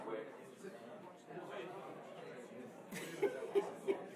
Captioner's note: chattering